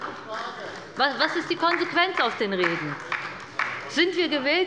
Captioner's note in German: Beifall bei der LINKEN